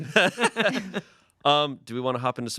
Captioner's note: everyone laughs